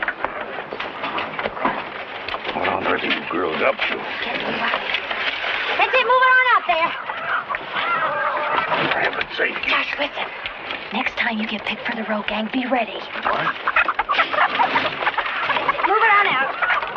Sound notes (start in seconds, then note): 14.3 chicken clucking